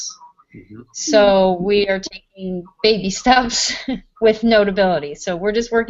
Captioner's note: laugh